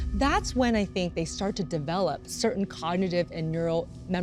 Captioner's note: none